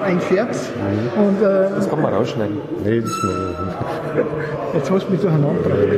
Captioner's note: laughter